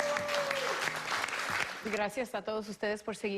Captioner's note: applause